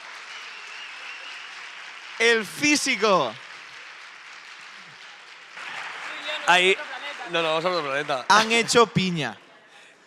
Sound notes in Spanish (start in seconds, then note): 0.1 Aplauso; 3.6 Aplausos